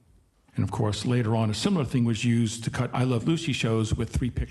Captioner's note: none